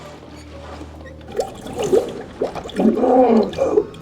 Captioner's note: gasping